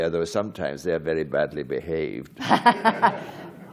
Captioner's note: laughter